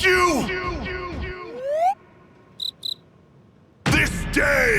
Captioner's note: crickets